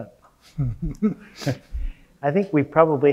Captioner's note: laughing